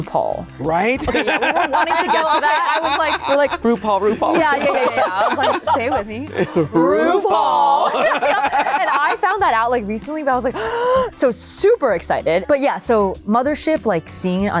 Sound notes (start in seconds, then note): 10.5 gasps